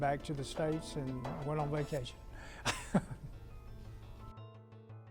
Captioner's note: laughs